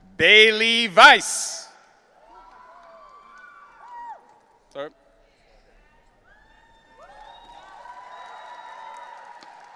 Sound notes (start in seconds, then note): 2.4 audience cheering; 6.6 audience cheering